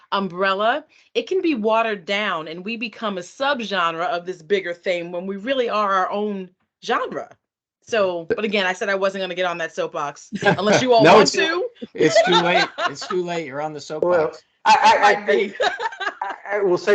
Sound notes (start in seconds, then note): 10.3 laughing; 14.6 laughing